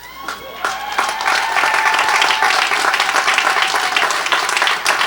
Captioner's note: audience cheers and applauds